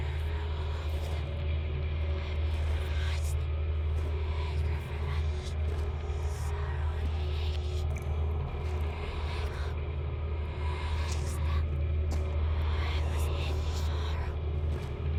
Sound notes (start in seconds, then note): 0.9 ghostly whispering; 0.9 suspenseful music